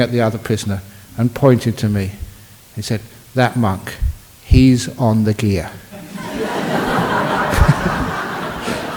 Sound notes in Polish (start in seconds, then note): 5.9 śmiech